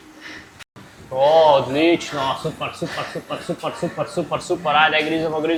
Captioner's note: laughter